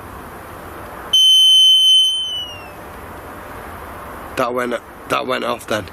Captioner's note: energy detector device beeping and whistling